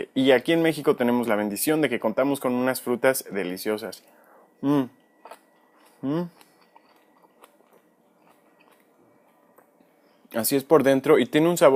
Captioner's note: monch; chomp